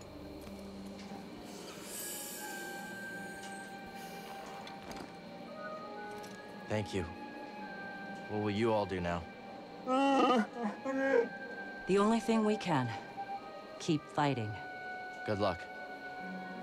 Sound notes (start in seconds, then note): 1.4 breather hisses; 9.9 roar